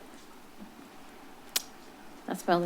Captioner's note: clicks tongue